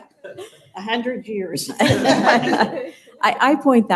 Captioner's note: laughter